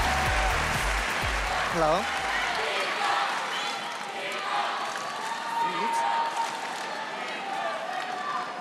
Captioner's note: cheers and applause